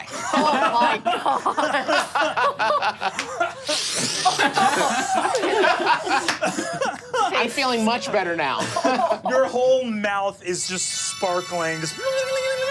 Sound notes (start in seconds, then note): 0.0 laughs; 1.8 group laughing; 3.6 sniffing; 3.6 group laughing; 11.6 hums